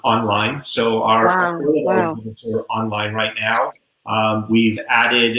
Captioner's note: voice muffled